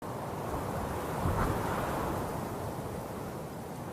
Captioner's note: wind blowing